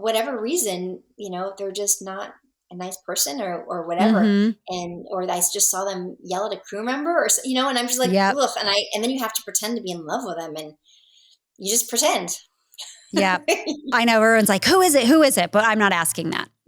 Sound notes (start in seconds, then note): 12.8 laughing